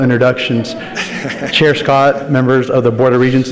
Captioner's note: laughs